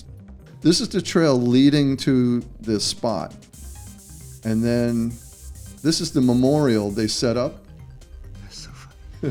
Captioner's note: laughter